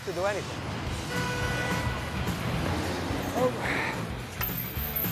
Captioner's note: taxicab horn honks